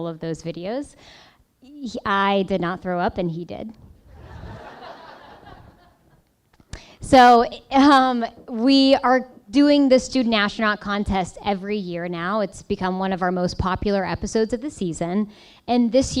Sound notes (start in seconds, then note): 6.3 laughing